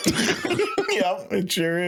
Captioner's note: laughing